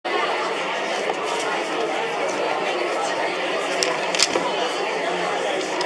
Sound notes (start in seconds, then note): 0.0 crowd talking